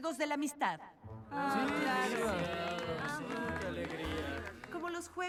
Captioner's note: murmurs and applause